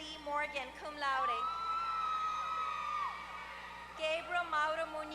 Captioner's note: applause